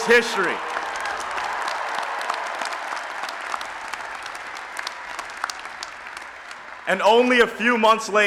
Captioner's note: applause and Cheering